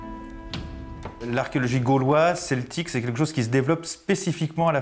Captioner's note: French spoken audio